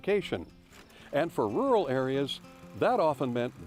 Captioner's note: film reel rattles